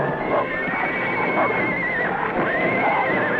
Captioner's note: whinnying